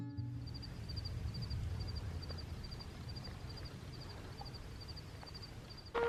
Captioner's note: crickets